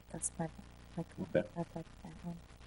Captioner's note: speaking faintly